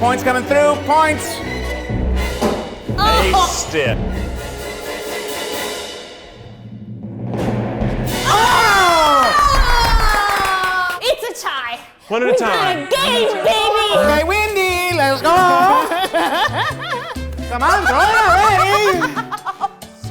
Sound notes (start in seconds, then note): 8.2 everyone exclaims; 14.9 laughs